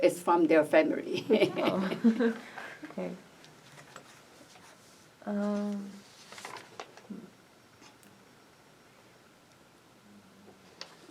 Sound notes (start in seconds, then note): 1.2 laughs